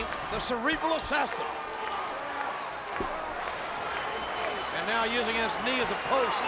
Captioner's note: applause